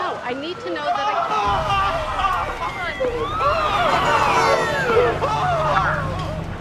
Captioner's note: screaming